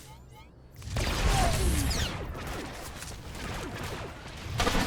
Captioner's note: gunshots